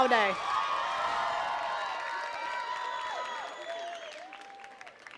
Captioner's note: attendees cheering and clapping